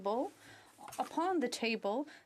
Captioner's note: speaking French